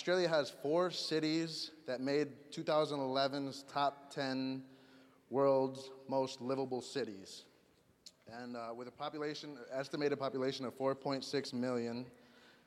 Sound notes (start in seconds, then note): none